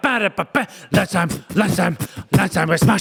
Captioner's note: beatboxes